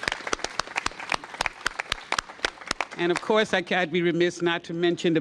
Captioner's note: applause